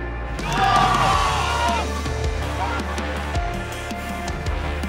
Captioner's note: team cheers